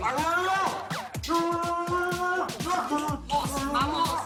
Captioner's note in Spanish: Gritos